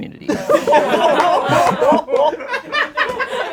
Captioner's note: laughing